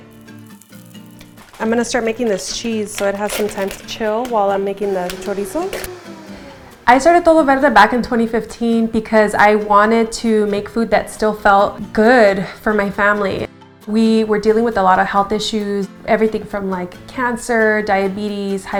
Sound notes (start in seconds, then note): 1.2 nuts hitting blender; 5.5 blender whirring